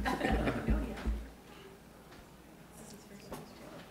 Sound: audience talking

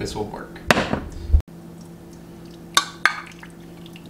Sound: water Droplets

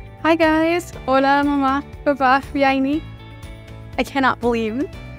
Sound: speaking Spanish; woman in navy blue shirt speaking Spanish

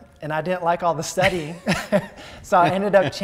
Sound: both laugh

